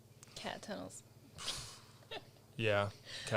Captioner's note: laughs